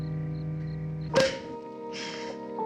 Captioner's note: cork popping